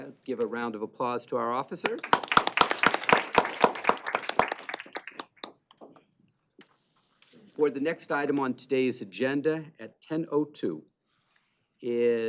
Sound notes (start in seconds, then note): 1.8 applause